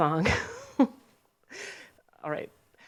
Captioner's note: laughs